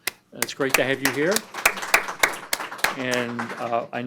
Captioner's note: audience applause